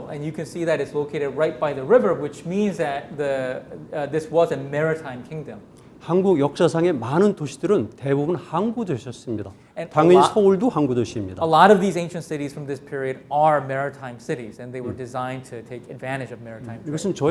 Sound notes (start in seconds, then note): 6.0 speaking in Korean; 17.1 speaking in Korean